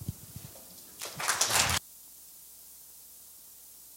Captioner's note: applause